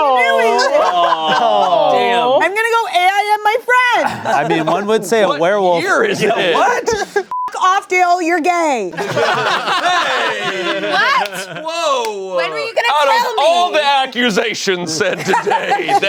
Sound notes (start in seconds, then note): 7.3 beep; 9.0 everyone laughing